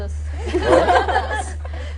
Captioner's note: laughter